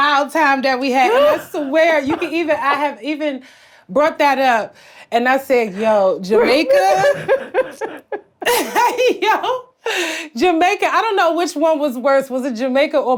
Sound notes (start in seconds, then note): 5.7 Blac Chyna laughs